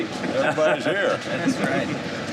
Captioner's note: laughs